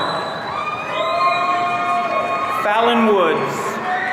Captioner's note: audience cheering